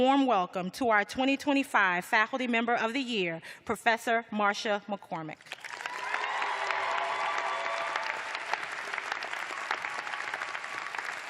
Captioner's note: cheers and applause